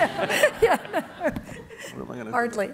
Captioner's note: laughing